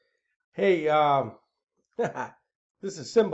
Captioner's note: laughs